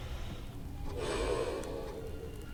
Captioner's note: Zheng deep breath